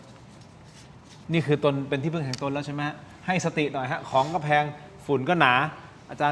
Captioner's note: takes a deep breath